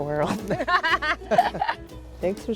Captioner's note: laughs